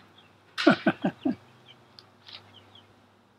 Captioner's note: laughs